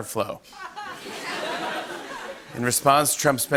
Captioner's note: laughter